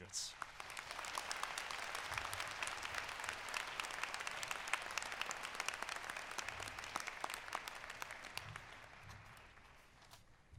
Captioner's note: applause